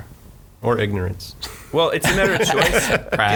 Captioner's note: laughing